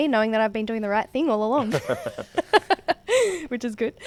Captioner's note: laughing; laughs